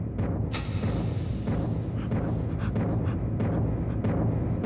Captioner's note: match striking